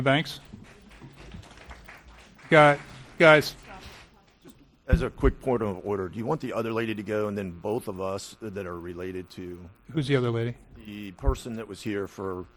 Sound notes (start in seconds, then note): 7.2 applause